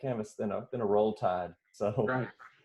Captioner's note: chuckles